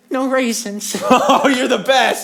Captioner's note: laughs